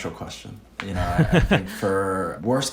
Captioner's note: laughing